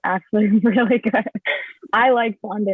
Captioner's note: laughing